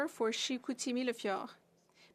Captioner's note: speaking French